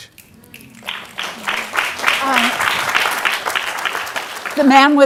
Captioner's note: audience applauding